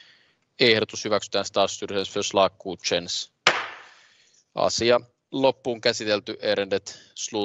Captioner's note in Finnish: nuijan kopautus